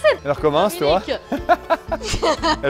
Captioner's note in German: Sie lachen